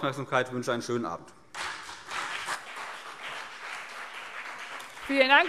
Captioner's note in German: Beifall CDU und BÜNDNIS 90/DIE GRÜNEN